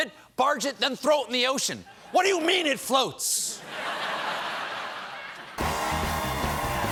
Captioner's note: laughter